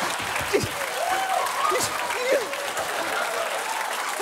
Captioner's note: panting; audience applauding